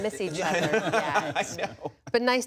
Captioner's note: laughter